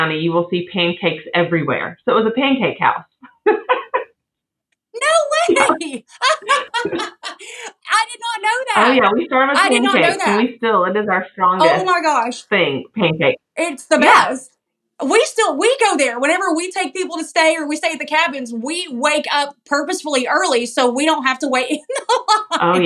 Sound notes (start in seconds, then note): 5.0 laugh; 21.6 laugh